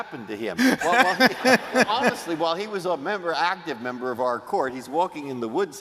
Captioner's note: laughter